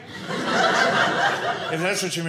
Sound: audience laughing

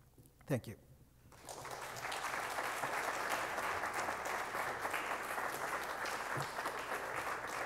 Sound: applause

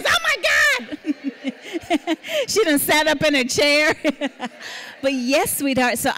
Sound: laughing

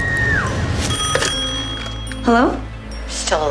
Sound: phone rings

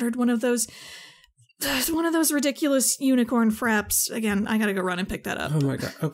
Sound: sigh

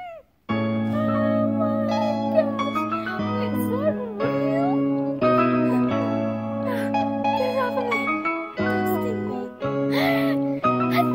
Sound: whimpering; cries like a baby

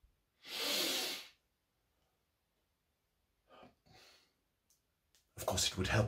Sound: sniffs

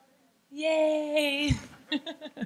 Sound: laughing; laughs

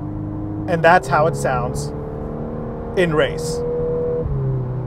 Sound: vehicle engine roaring

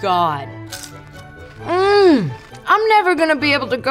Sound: crunching

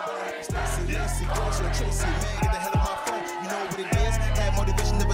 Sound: chanting

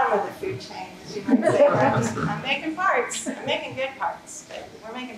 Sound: laughter

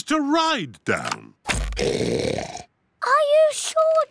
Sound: oinks loudly

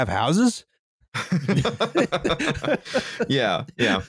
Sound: laughter

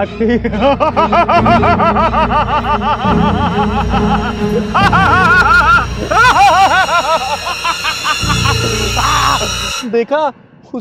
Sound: laughing

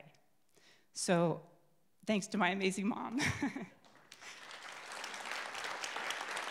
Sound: chokes up, laughs; crowd applauds

